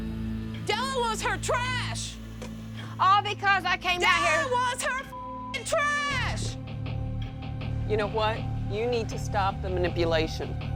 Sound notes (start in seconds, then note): 3.9 shouting